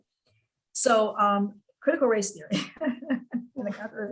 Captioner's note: laughs